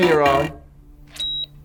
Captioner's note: buzzer sounds; short high-pitched beep